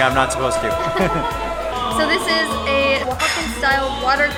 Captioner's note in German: Gelächter